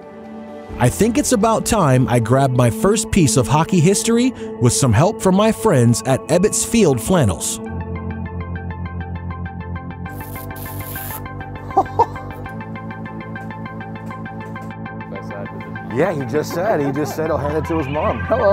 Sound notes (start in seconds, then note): 10.1 plastic ripping; 10.1 laughing